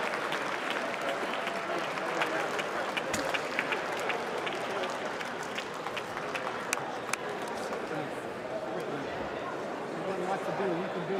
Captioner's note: applause